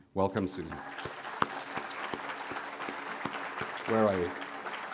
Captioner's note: applause